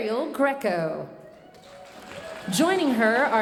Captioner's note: audience cheering and applauding